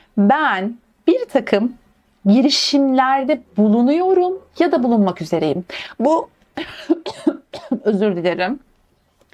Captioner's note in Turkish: öksürme